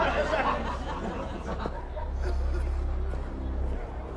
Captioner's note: people laughing, singing